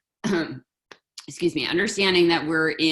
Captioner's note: coughs